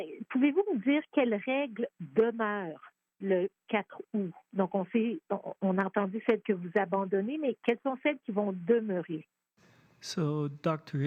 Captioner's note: speaking French